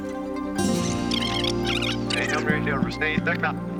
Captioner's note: rewinding squeak; speaking backwards